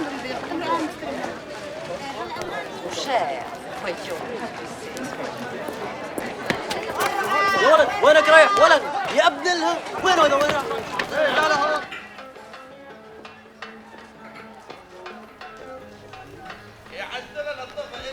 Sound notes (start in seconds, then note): 7.1 yelling foreign language; 12.0 sombre music